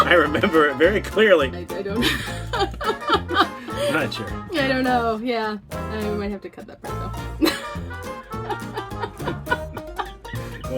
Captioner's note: laughing; laughing